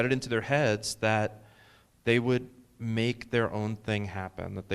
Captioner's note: none